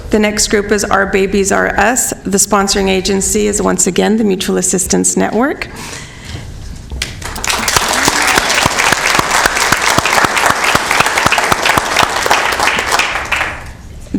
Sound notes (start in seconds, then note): 7.0 applause